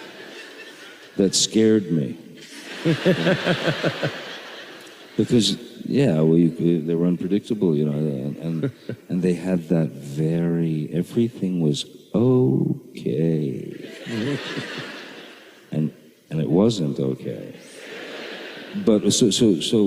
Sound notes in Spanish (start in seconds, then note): 2.4 risas